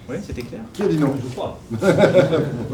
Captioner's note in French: rires